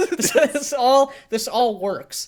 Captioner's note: laughs